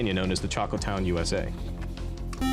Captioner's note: beep